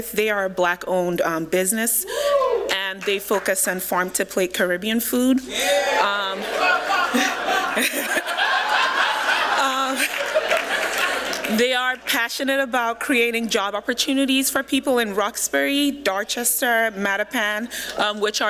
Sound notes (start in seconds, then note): 5.5 cheering